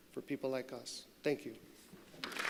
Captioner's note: applause